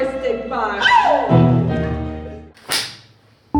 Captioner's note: scream